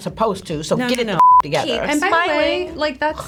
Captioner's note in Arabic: الصافرة